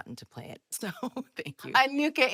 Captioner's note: laughs